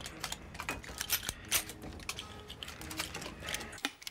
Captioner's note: guns cocking